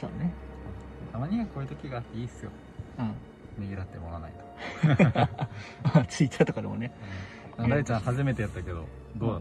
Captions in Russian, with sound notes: -Приятно иногда играть эту роль -Да [смех]